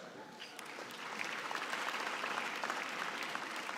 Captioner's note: applause